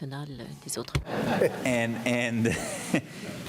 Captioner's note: laughter